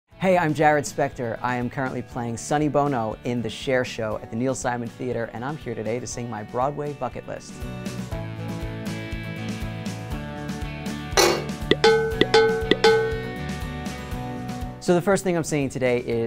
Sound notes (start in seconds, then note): 7.4 gentle rock music; 11.2 clanking